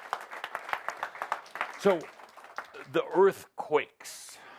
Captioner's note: audience applause